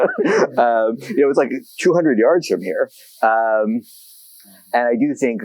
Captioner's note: laughs